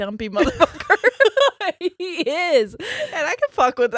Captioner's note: both laughs